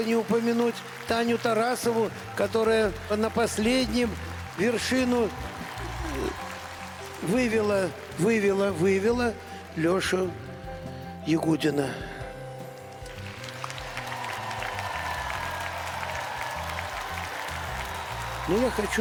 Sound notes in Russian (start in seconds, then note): 14.9 аплодисменты; 14.9 ликование